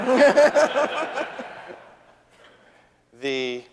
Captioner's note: audience laughing